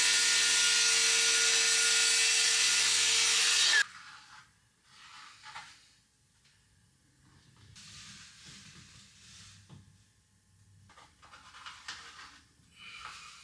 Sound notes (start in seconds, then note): 3.1 saw buzzing